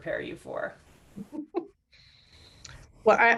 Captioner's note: chuckles